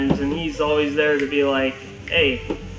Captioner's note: snaps fingers